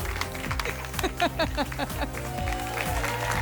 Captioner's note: laughs; applause and cheering cont